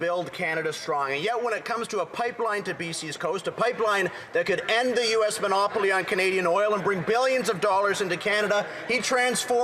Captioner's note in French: voix de l'interprète